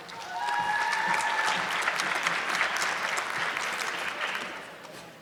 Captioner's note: audience clapping